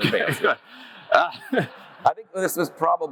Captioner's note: audience laughs; laughs